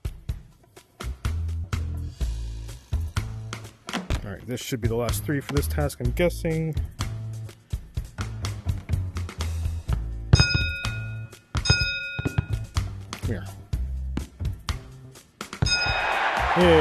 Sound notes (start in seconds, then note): 10.3 ding*ding; 13.3 ding